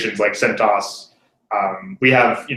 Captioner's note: laugh